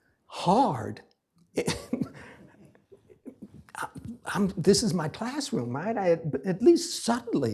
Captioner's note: laughs